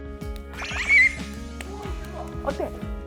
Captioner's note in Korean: 박수가 저절로